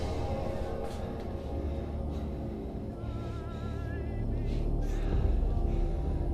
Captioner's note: Clint breathing heavily; soft tense music